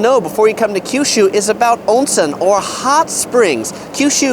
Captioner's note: speaks in foreign language